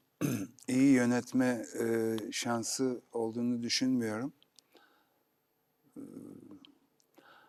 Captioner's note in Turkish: boğazını temizler